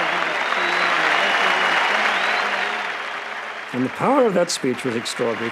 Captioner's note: wild cheering and applause